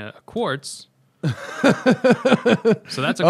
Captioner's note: laughter